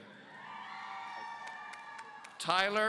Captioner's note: audience cheering